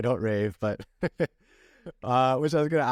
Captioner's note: laughter